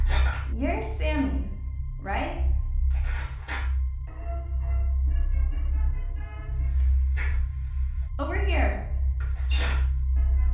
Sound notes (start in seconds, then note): 3.0 metal clanking; 3.6 melodic 1920's music; 10.3 gentle tense music; 10.3 melodic 1920's music